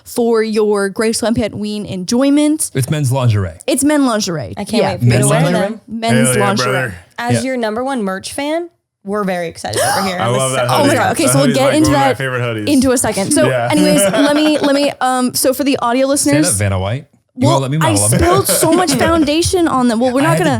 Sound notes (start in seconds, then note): 9.7 woman gasps; 14.9 man laughs